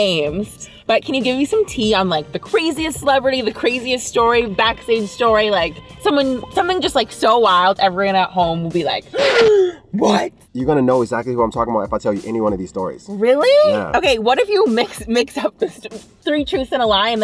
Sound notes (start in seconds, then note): 9.7 gasp